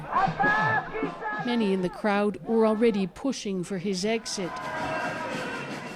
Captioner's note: speaking alternate language